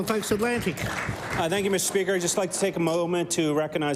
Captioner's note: applause